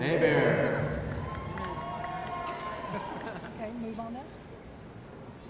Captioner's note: audience cheering